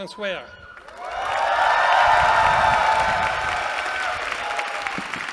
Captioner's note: cheering